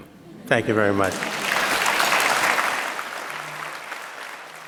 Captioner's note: audience applauds